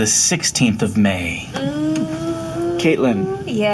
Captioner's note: oohs